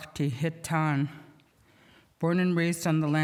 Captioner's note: speaking indigenous language